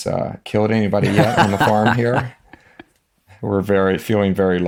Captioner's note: Jon laughs